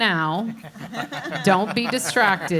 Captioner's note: panelists laugh